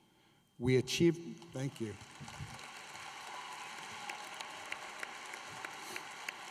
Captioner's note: applause